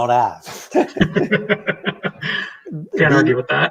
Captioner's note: both laughing